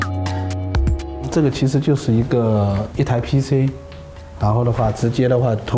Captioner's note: speaking in Chinese